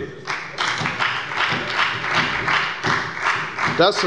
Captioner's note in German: Beifall bei der FDP und bei Abgeordneten der SPD